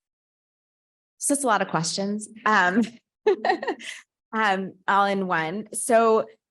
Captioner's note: laughs